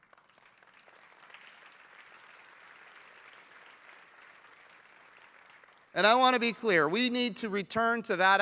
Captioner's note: applause